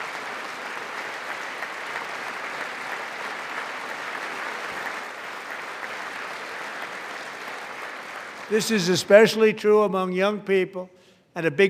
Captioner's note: applause